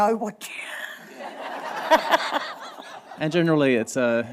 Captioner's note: laughter